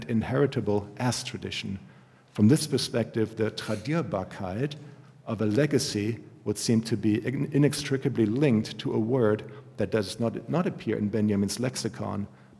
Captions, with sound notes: inheritable, as tradition. From this perspective, the [GERMAN] of a legacy would seem to be inextricably linked to a word that does not appear in Benjamin's lexicon,